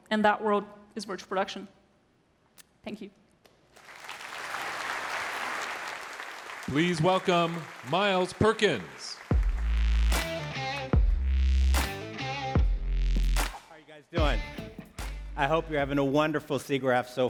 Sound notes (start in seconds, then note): 3.7 applause